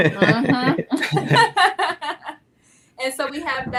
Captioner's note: laughing